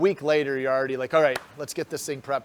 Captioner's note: hands clap